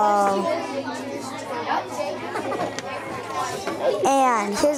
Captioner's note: students chattering